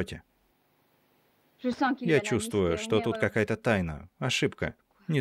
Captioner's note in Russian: Говорит по-немецки